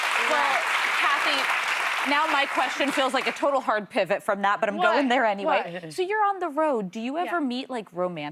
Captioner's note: cheers and applause